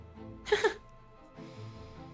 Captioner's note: laughs